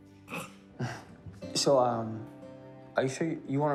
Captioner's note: chuckling